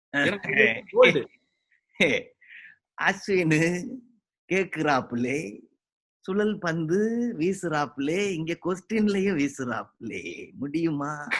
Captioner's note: In Solomon Pappaiah’s voice